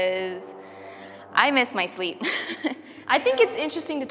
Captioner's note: chuckles